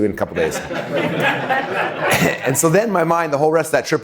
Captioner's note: laughing